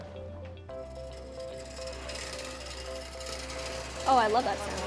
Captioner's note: robot rattling